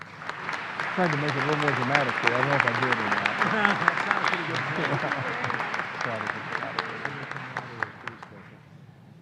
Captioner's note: applause